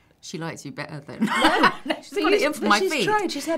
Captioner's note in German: lachen